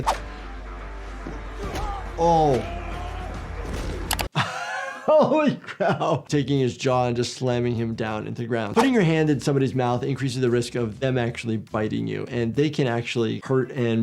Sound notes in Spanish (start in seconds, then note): 0.3 música rock; 3.7 golpe sordo del personaje; 4.3 riendo